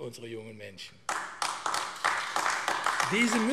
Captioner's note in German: Beifall AfD